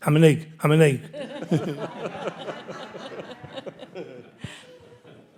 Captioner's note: audience laughing